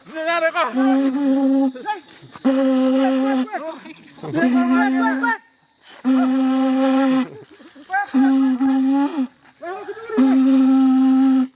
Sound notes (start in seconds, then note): 5.3 horn blowing; 9.6 laughing